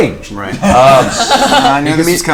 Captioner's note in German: Gelächter